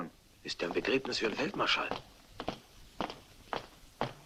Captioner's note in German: whispers